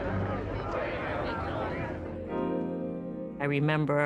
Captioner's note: crowd murmuring